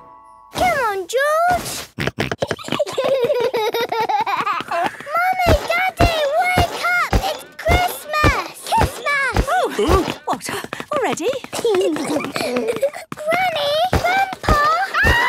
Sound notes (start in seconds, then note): 1.6 George snorting; 2.0 both giggling; 2.0 George laughing; 9.6 exclamations; 11.2 giggling